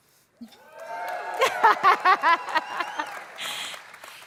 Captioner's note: applause